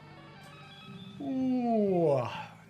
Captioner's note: yawns